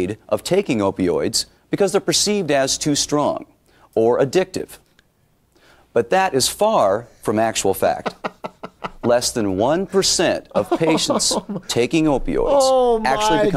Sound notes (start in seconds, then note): 8.0 laughs